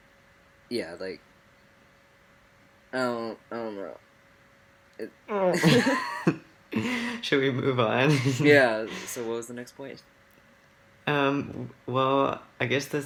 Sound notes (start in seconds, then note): 8.0 laughs; 8.0 uncomfortable noises